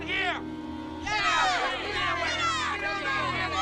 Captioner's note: crowd jeering